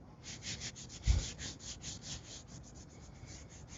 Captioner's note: cloth scraping